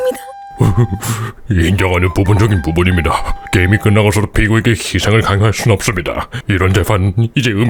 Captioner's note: sob